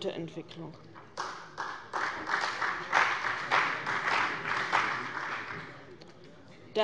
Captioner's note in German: Beifall bei dem BÜNDNIS 90/DIE GRÜNEN und der CDU